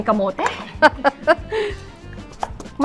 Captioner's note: laughs